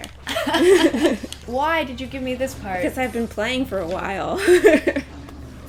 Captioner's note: laughter; laughter